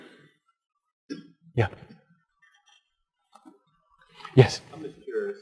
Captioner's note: pause